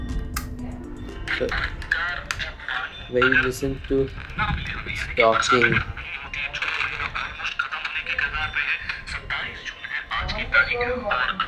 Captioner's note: radio playing